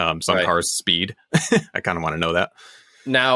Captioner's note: laughs